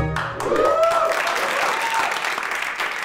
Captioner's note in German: Applaus